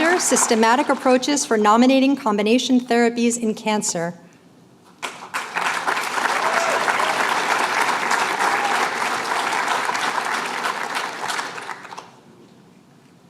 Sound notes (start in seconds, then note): 5.0 applause